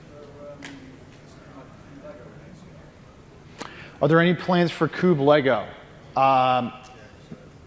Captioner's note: off mic